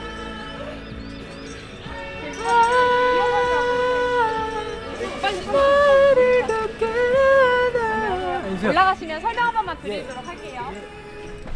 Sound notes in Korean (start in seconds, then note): 4.9 흥얼흥얼 노래 부르다가